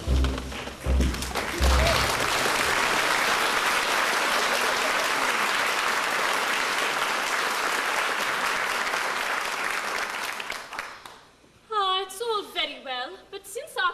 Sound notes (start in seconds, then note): 1.0 applause